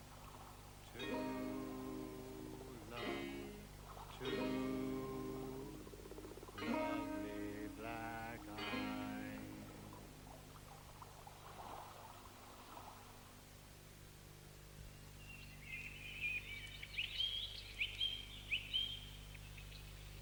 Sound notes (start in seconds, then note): 14.9 birds chirping